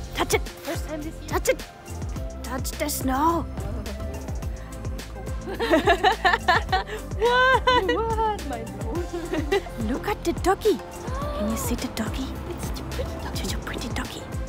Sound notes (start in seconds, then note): 5.4 laughter